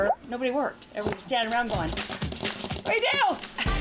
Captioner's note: drums fingers